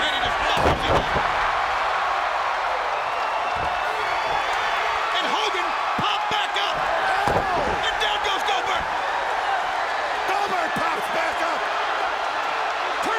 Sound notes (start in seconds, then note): 0.1 crowd cheering drowns out commentator; 6.6 Goldberg thudding